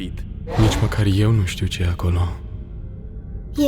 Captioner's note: spooky voice